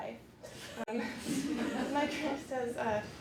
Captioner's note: laughter